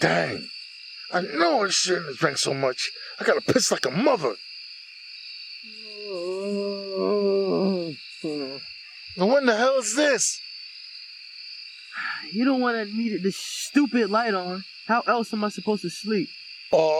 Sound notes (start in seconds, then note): 5.8 Andrew groans, tiredly